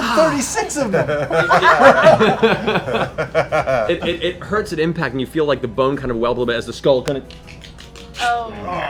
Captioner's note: bone ratchety noise